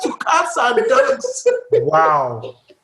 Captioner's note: laughter